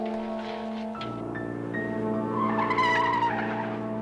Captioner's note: tires screech